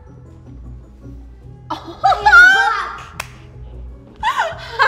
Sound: laughs; laughs

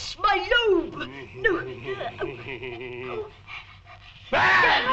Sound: bowler chuckling

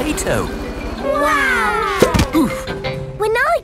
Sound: crowd

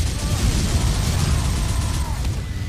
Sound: minigun sounds

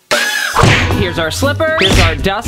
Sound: whap

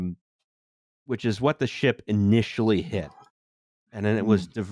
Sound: satisfying drinking sound

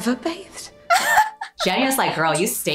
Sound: laughing

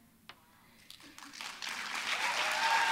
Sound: applause

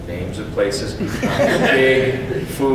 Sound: audience chuckles

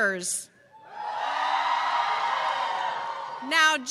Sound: cheers

